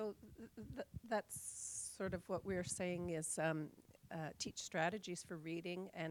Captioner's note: voiceover